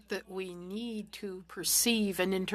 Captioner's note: speaking French